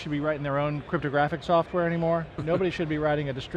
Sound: chuckles

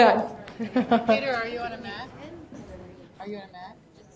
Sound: voiceover

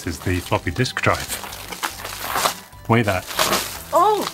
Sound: bubble wrap tearing

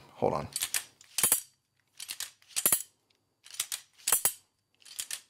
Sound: Switchpods clanking

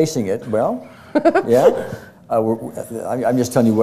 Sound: laughter

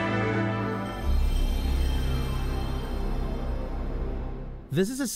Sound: PS1 Startup sound

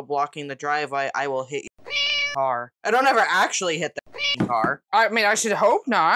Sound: meow

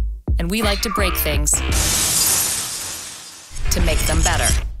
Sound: glass shattering

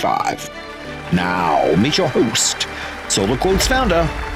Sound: audience applauding

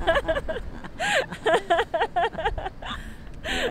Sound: laughing

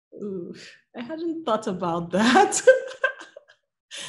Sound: laughing

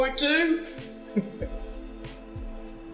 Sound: laugh

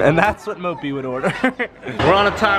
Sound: laughs

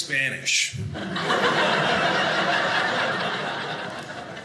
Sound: audience laughing

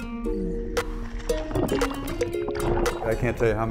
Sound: water splashing

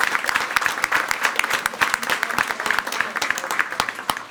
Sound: everyone applauding

